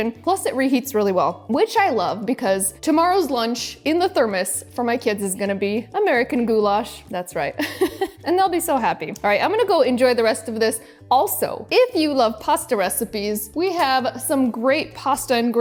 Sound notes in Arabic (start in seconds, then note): 7.6 يضحك